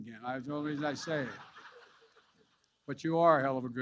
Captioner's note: laughter